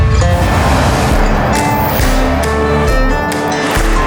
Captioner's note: car engine humming